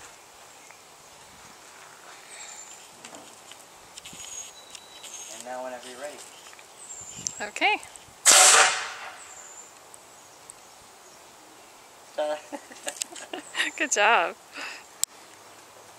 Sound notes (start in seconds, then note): 8.2 air blast sound